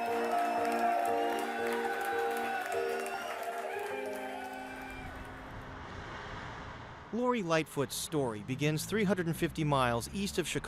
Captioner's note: cheering